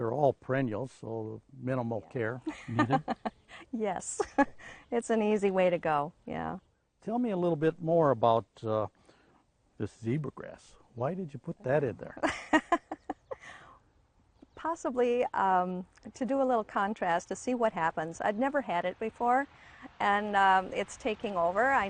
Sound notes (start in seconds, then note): 2.4 laughing; 11.7 laughing